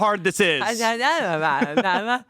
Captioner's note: Amanda mumbles